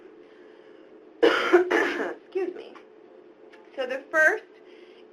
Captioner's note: coughs